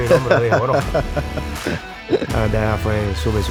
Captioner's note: laughter; rock music